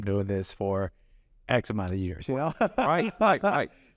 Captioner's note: laughs